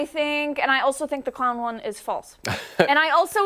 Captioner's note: laughter